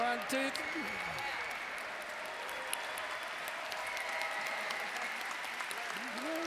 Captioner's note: background chatter